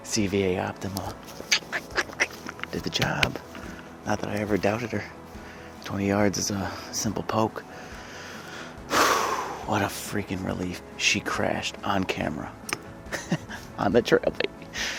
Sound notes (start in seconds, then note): 7.7 exhales deeply